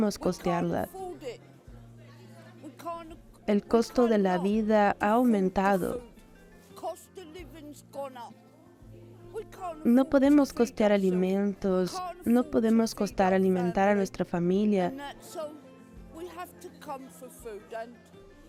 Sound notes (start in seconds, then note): 1.2 Hablando idioma extranjero; 6.2 Hablando idioma extranjero; 15.1 Hablando idioma extranjero